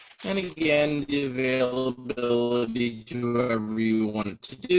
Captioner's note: audio distorting